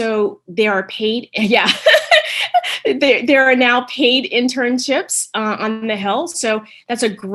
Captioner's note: laughs